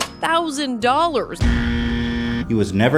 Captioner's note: buzzer sound plays